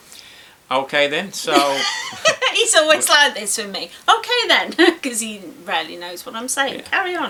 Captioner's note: laughs